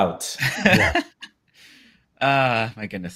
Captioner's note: laughs